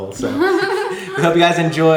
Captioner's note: laughs